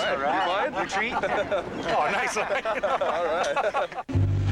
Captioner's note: laughs